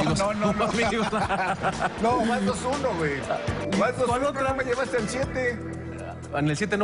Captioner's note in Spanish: risas